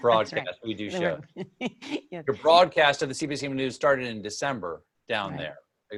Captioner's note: laughter